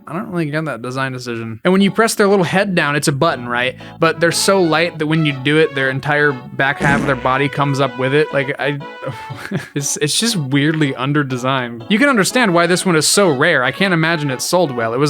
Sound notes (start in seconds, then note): 6.8 fart noise; 9.0 laughs